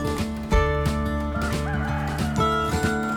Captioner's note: A rooster crows